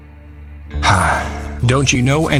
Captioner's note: sighs